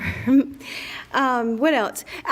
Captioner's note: laughs